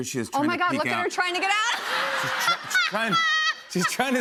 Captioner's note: laughs